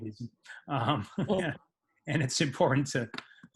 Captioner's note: laughs